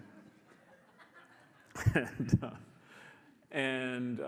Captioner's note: audience laughs